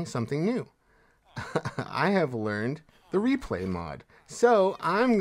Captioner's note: laughs